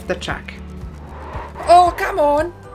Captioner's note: tires squealing